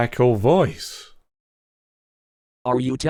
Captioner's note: pause